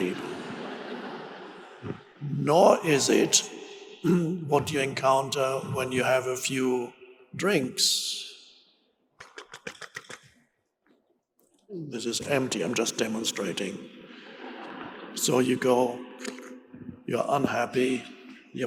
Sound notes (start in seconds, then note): 0.0 audience laughing; 14.1 audience laughing